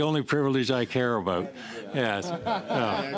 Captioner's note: laughter